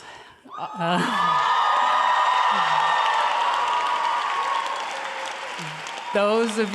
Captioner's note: cheering and applause